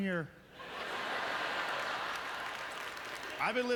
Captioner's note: audience laughter